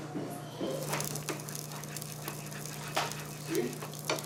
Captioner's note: food sizzling